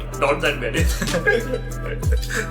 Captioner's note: laugs